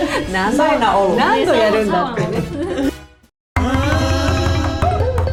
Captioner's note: laughs